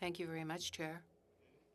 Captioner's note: speaking French